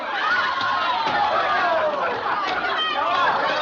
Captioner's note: chattering, Shouting